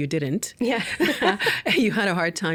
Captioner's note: laughing